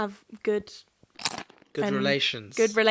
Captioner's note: snack crunching